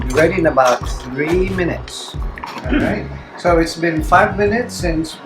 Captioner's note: clears throat